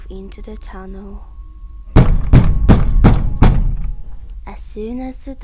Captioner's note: banging sound